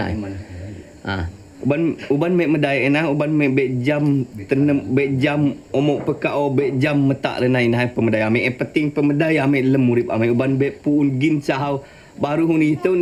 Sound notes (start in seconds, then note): 2.3 speaking in foreign language